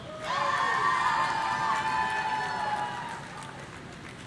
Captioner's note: audience cheering